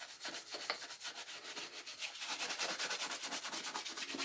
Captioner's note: brush scratching